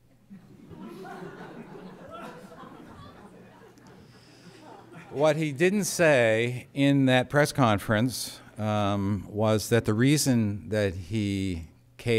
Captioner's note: laughter